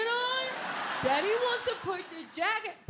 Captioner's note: audience laughing